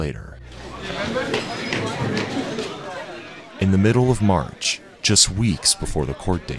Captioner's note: students chattering